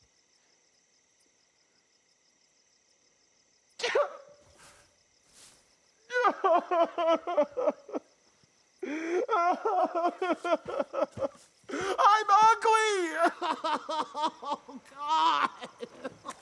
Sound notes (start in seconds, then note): 3.7 Kevin sobs; 14.9 sobs